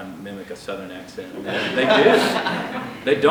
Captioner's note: laughter